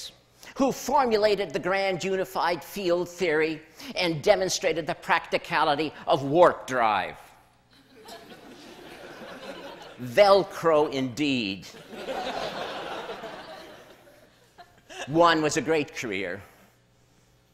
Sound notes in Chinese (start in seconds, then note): 7.8 笑聲; 11.7 笑聲